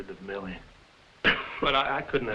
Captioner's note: Jakob coughing